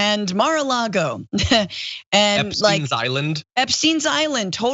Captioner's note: laugh